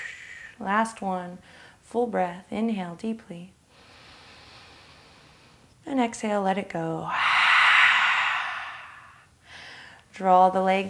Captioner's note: inhale; inhale